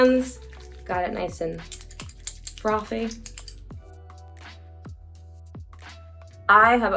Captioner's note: jewelry clinking